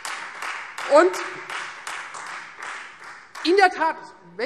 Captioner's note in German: Beifall Freie Demokraten